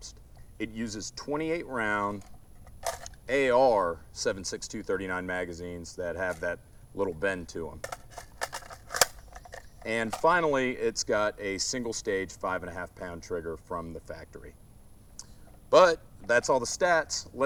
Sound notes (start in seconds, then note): 7.8 gun clicks